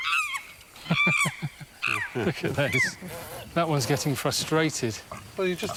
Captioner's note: laughs